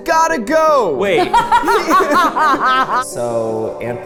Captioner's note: laughing